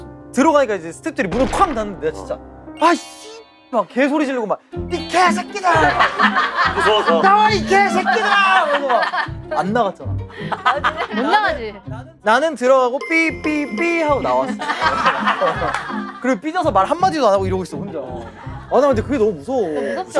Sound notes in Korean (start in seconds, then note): 5.8 웃음